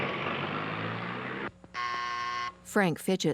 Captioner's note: doorbell buzzing